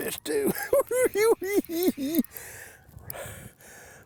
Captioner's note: cackling